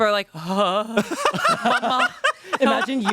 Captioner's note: everyone laughs